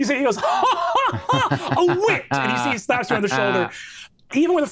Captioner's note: laughs